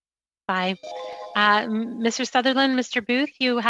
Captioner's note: speaking French